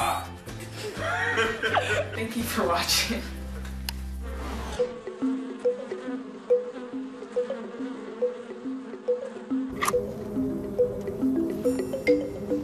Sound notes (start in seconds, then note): 0.6 laughs; 4.0 drone of many bees buzzing